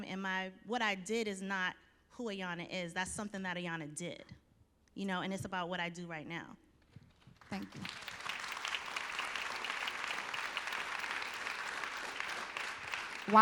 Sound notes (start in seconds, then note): 7.0 applause